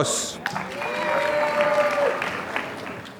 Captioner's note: applause